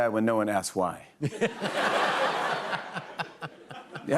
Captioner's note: laughter